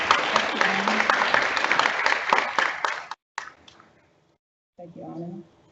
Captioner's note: audience applauds; audience applauds